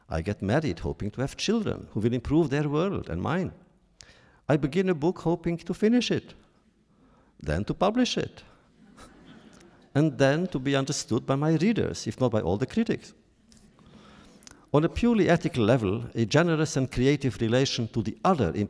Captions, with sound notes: I get married hoping to have children who will improve their world and mine. I begin a book hoping to finish it, then to publish it, (laughter) and then to be understood by my readers, if not by all the critics. On a purely ethical level, a generous and creative relation to the other